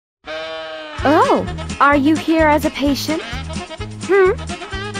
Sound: voice of character

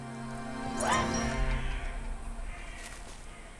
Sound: crow calls

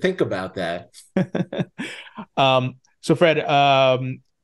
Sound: chuckling

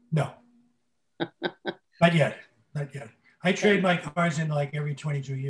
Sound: laughs

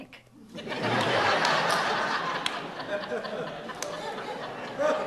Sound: audience laughs

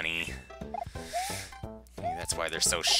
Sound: breathing

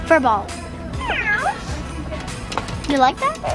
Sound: cat meows

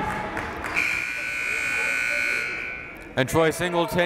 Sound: buzzer

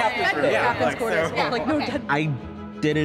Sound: all speaking excitedly

